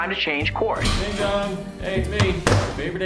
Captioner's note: front door opens; slams laptop shut